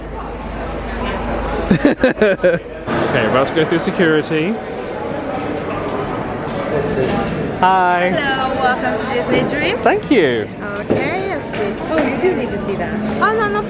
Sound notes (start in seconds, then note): 1.6 laughing